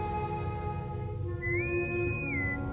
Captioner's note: intercom whistle